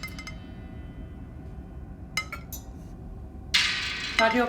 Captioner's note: silverware clattering